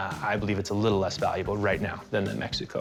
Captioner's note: none